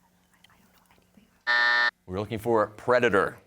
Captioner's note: team whispering; buzzer sounds